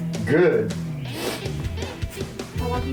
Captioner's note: sniffling